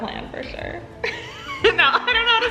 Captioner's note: laughing